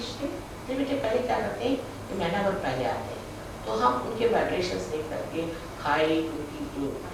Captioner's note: hindi